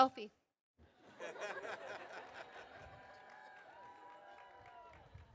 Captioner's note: audience laughing